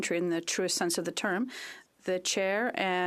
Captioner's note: speaking French